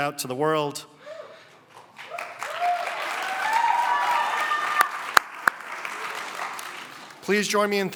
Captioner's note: cheering and applause